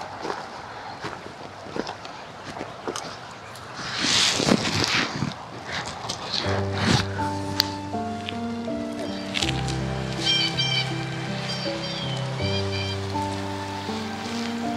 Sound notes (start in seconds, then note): 6.3 piano theme; 9.9 birds cawing